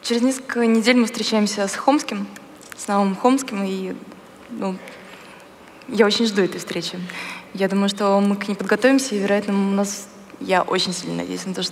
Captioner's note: foreign Language